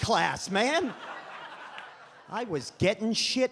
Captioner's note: audience laughs